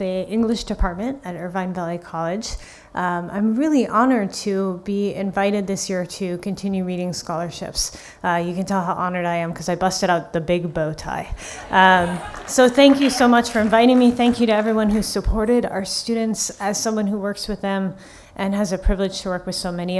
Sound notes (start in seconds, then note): 11.4 laughing